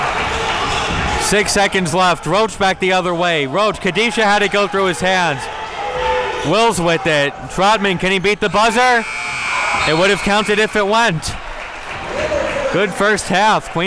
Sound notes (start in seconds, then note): 8.8 buzzer sounds